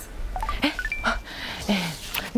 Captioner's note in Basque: Tinder soinua